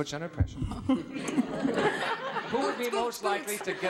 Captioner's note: audience laughing